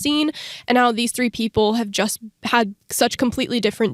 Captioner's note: none